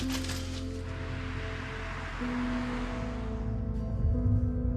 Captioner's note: guitar bag swishes; car engine whirs; sad music continues